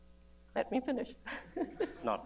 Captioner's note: laughs